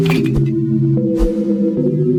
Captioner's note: clink, woosh; woosh